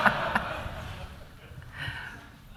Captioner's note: laughter